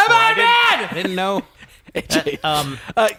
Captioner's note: screaming